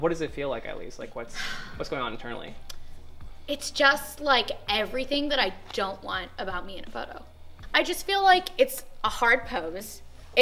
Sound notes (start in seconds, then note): 1.4 sighs